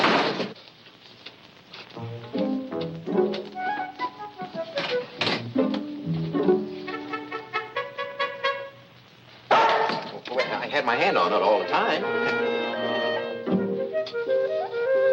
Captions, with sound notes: (light hearted music) (Luther barks) I had my hand on it all the time.